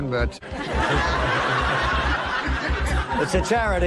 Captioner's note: laughter